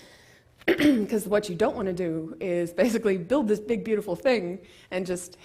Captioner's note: cough